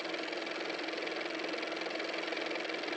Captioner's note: car motor